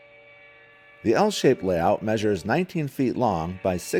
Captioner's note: voiceover